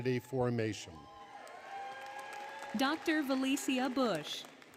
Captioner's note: cheering, Applause; applause, Music